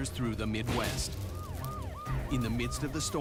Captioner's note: ambulance siren; electric cable burst